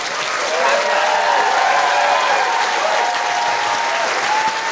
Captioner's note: cheering